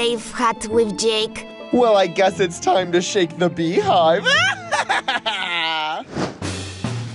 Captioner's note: evil laugh